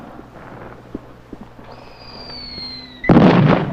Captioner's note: bombs exploding